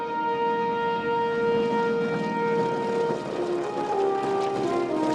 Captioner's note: patriotic instrumental music; plane engine rumbling